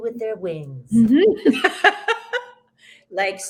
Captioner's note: both laughs